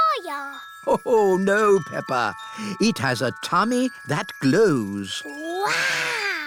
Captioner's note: laughs